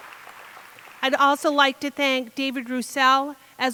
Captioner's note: applause